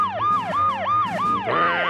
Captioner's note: grumbles